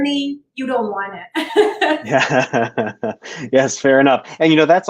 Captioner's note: laughter